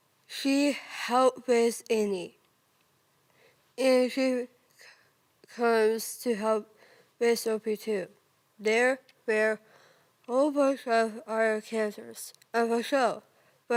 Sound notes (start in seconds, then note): 3.2 soft breathing